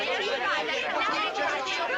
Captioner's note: indistinct chattering